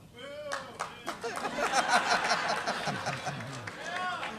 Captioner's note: applause